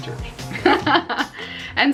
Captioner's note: laughs